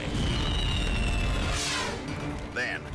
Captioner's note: fire roaring; scene swooshing